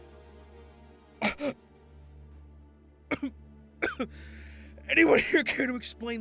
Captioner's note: Jackson gasping for air